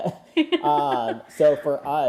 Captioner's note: laughs